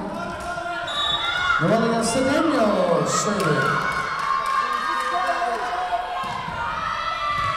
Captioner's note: whistle blowing